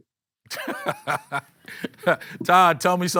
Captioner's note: laughs